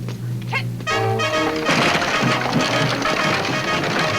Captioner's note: wagon rattles; woman shouts; exciting music